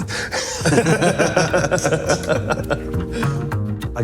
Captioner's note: laughter